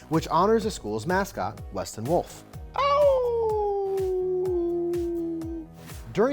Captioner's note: imitates wolf howling